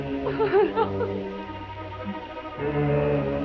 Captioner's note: crying